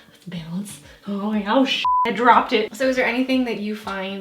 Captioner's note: beep